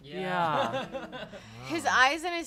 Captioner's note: laughs